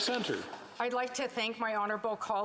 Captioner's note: speaking Indigenous Language